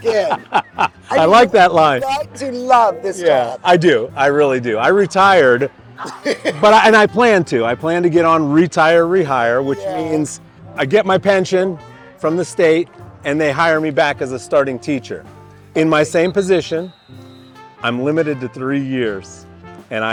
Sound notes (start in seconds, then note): 0.0 laughing; 6.0 laughing